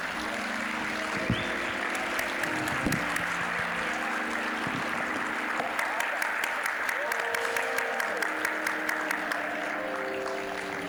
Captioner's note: applause; soft music